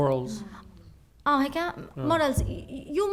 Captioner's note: speaking arabic